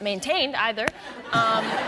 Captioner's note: laughter